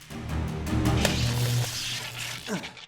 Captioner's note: sizzle